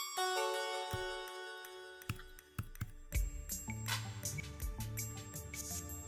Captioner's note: typing sounds